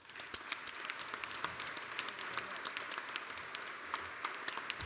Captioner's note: applause